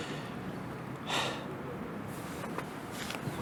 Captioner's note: sigh